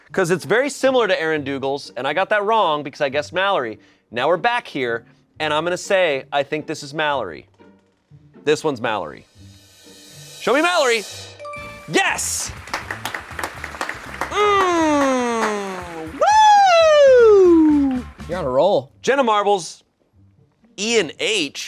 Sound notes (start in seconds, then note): 9.6 drum roll hisses; 11.5 bell chimes; 12.3 crew applauds